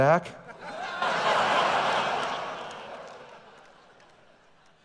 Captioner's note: audience laughing